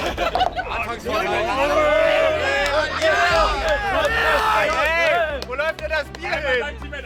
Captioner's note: mumbling and cheering